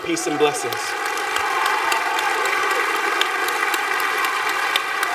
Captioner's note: applause